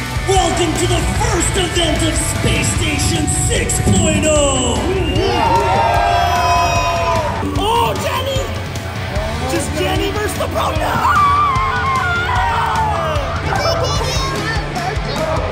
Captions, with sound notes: Welcome to the first event of Space Station 6.0. (crowd cheering) Oh, does Jenny mess up, oh, no! (music drowns out speakers)